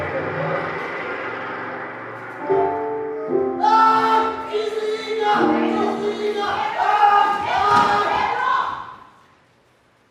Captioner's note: shouts